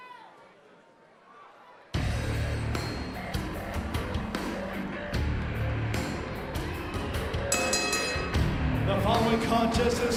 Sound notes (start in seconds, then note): 0.0 crowd cheering; 7.5 bell ringing